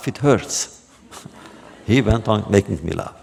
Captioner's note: laughter